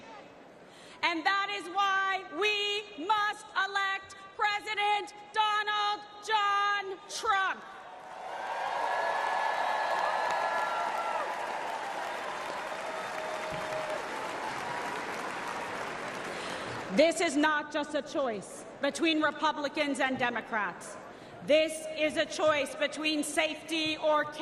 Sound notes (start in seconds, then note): 10.5 applause